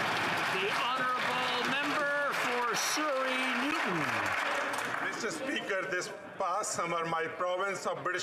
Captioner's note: applause